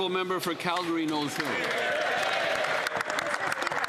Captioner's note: applause